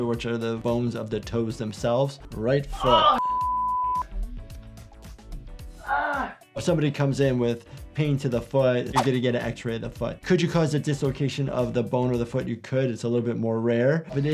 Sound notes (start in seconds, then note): 3.2 beep; 5.6 groans